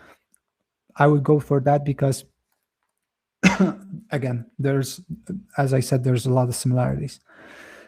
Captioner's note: coughs